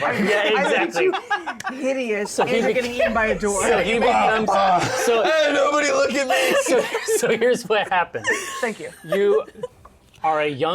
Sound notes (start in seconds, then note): 4.0 yells in horror; 5.5 shouting